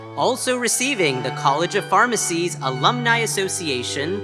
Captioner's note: none